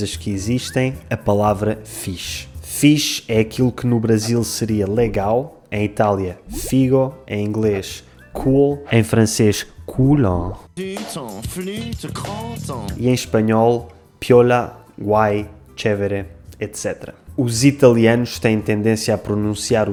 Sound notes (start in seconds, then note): 9.2 in French cool-un